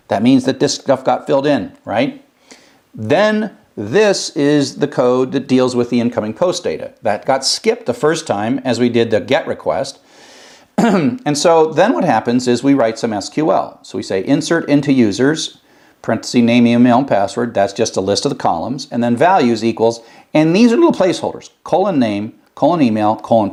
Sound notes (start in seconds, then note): 10.7 cough